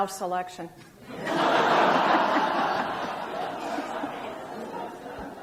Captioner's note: audience laughs